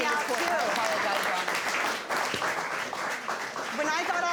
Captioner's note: audience applauding